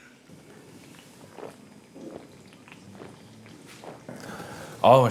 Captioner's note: chugging beer down